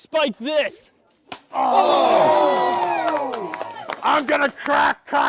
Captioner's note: cheers